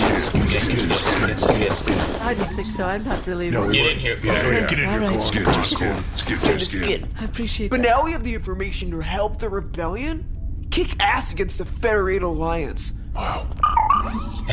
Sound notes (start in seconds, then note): 7.4 quietly